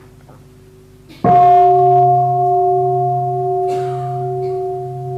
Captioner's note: bell